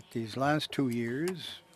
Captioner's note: speaking French